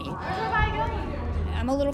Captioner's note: inmates arguing